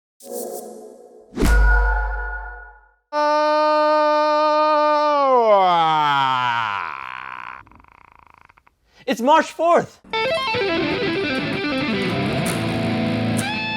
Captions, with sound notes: (shouting) - It's March 4th! (electric guitar music)